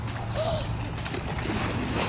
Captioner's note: intense music; woman gasps; water splashing